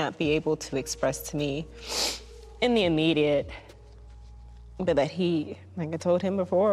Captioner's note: sniffles